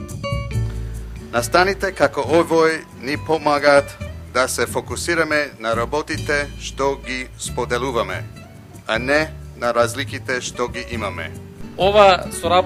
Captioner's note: speaking non-english